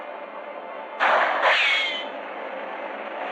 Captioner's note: gunshot